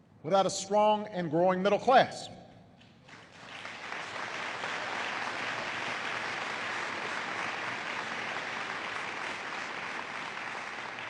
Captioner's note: applause